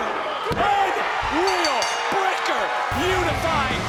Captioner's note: bell rings